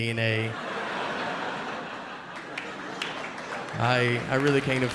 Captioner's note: audience laughing